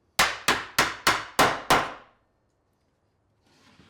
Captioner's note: woods smacking